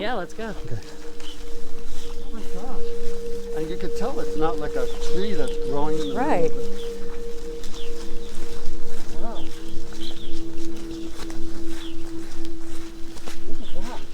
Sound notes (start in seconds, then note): 7.2 birds chirping; 7.2 gentle music